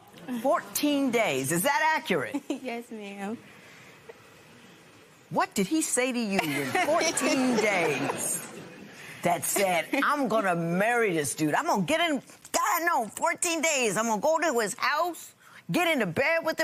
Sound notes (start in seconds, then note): 3.7 chuckles; 8.0 laughter